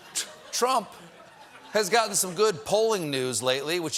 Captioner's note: laughter